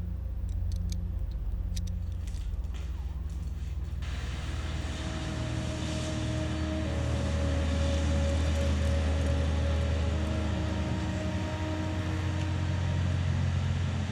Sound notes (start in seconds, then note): 0.1 metal clicks; 3.9 refinery sounds; 8.6 bicycle clicking